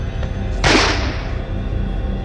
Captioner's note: gunshot